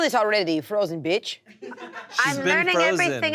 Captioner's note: laughter